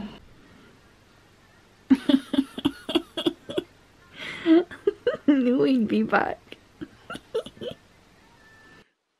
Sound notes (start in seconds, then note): 1.4 laughing